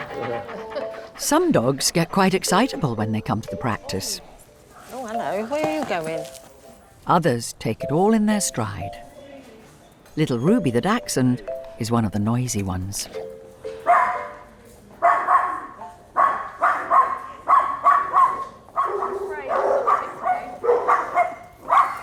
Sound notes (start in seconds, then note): 14.0 Ruby barking; 19.2 dogs barking